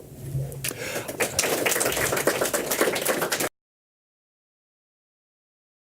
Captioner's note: applause